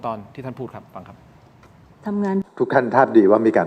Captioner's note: none